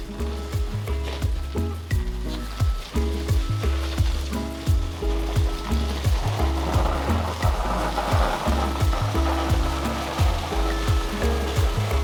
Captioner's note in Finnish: Aplodeja